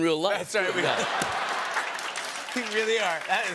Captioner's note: laughter and applause